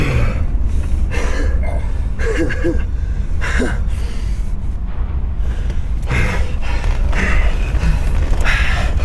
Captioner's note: crying